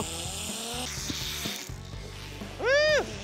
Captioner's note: line buzzing